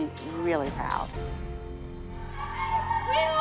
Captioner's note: whooping